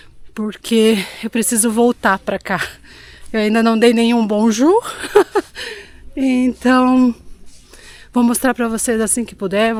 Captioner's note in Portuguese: risadas